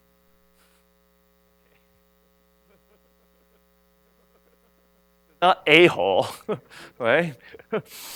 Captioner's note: laughs